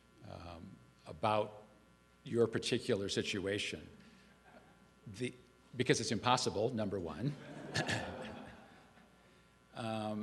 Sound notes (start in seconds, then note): 7.6 chuckle